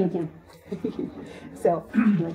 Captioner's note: audience & Presenter laugh